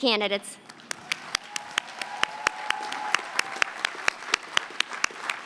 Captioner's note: applause